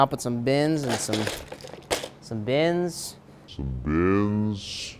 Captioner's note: plastic rustling